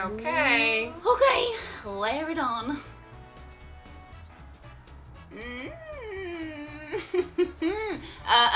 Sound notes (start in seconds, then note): 5.3 moaning